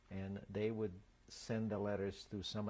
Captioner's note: none